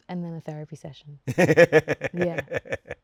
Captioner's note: Hugh laughing